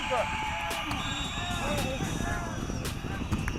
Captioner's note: whistle blowing